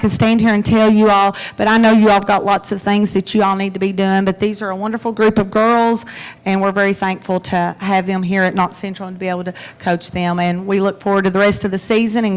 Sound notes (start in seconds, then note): none